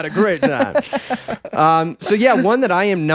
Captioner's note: laughing